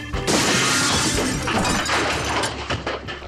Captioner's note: crash, clattering